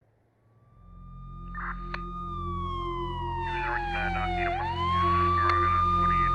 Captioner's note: sirens, police radio chatter, tense music